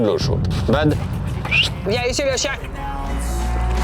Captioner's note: whistling